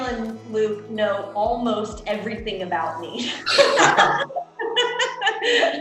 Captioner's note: laughs